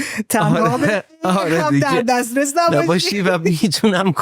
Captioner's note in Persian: خنده